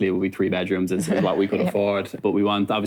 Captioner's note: laughs